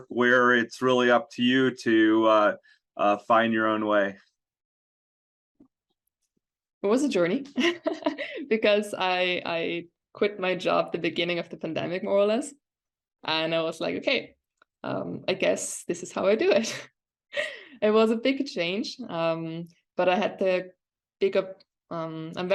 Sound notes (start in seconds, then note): 7.6 chuckles